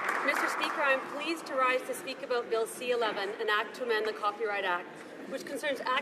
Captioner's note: some Applause